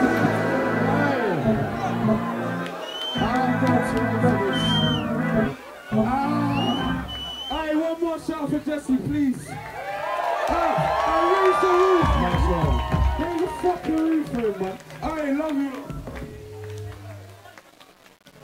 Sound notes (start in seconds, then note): 10.0 crowd cheers